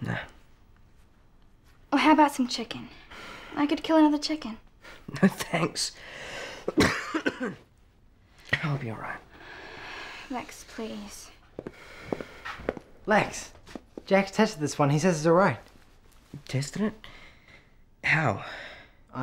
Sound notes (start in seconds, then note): 6.6 coughing